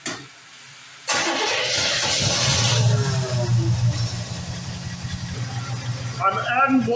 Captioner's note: engine starts & idles